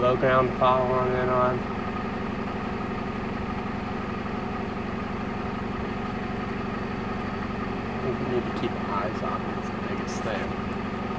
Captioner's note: vehicle idling